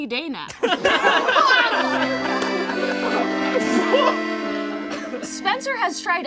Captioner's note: all laugh; plays accordion